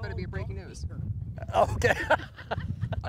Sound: laughing

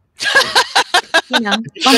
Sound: laughing

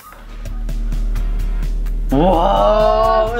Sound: electronic hum

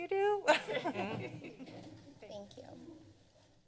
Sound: members giggling

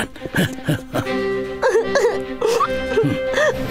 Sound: cries; mellow music

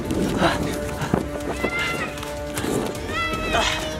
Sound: panting

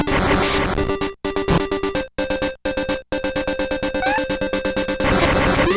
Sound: game audio

